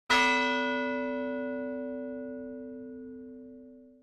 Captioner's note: bell clangs